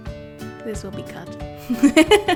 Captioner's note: acoustic guitar; laughs